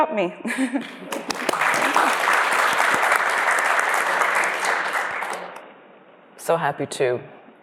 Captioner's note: applause